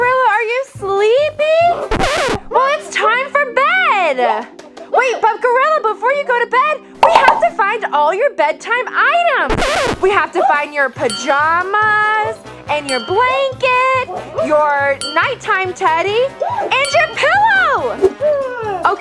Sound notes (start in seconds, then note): 1.9 record skip